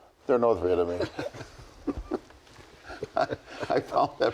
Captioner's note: chuckles